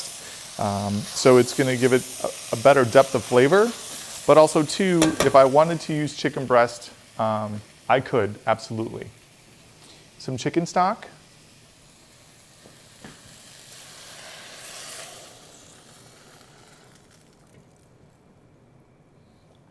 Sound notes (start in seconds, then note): 13.8 liquid pouring